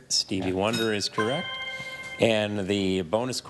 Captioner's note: chime resonating